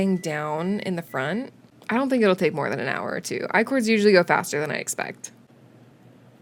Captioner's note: oven beeps semi-urgently